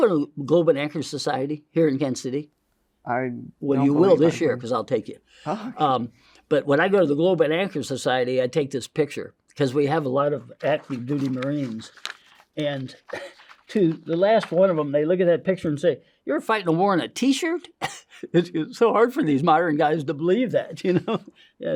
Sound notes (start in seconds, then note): 12.2 paper crinkling; 13.1 chuckles; 18.3 laughs; 20.9 chuckles